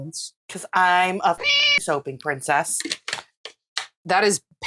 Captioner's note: meow